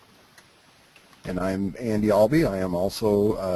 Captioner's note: voiceover